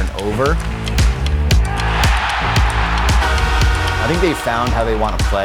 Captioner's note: crowd cheers